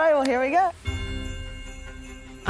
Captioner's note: upbeat Christmas music; claps